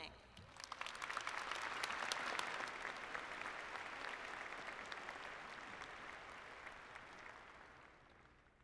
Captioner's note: applause